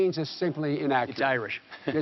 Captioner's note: chuckles; laughter